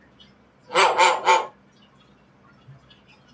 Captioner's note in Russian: Григорий лает